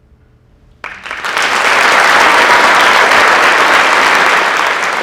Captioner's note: audience applauding